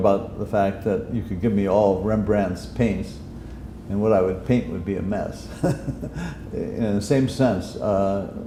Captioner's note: chuckle